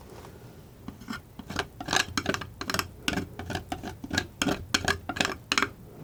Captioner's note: tapping